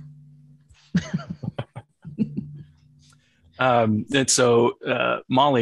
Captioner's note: both laughing